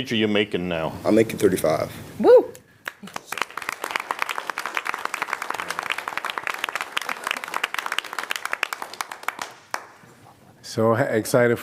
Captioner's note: applause